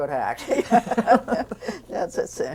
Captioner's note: laughter